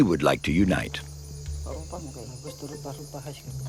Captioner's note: foreign spoken audio